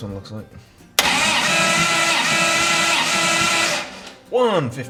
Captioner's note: engine trying to start up